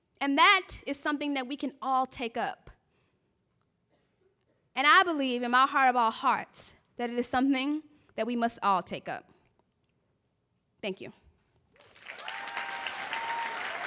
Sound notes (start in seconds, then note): 11.7 applause